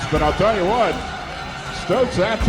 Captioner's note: crowd Noise